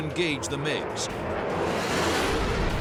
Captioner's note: jet engine noises